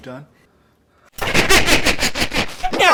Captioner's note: really distorted laughing